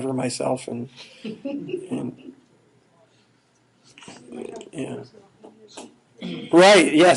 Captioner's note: laughing